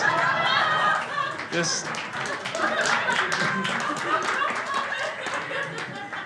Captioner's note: crowd applauding; crowd laughs